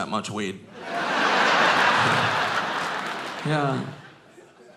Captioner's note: audience laughing